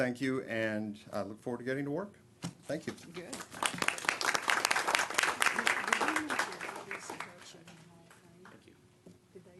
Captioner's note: applause